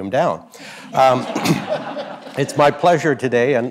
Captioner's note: audience laughs